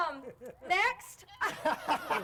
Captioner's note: all laughing